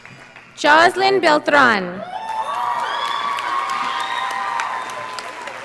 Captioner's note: audience applauding